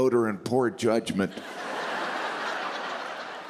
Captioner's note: laughter